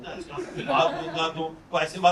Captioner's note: audience laughing